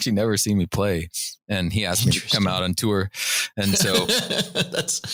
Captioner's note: laughter